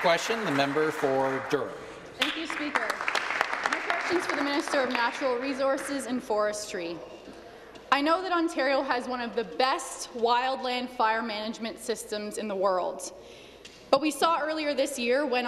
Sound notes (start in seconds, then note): 2.2 some Applause